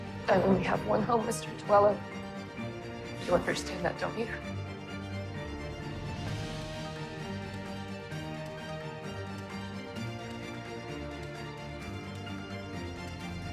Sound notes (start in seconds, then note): 3.3 voiceover